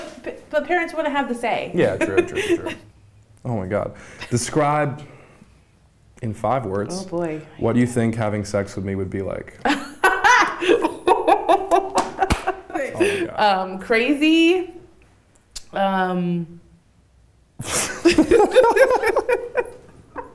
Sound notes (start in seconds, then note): 9.6 laughing; 17.6 both laughing